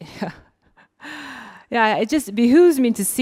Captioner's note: laughing